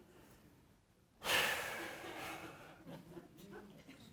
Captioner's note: huffs